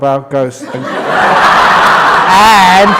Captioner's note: roaring laughter